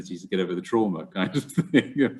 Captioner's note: laughs